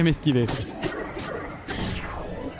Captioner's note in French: grognements de l'Ombre de foudre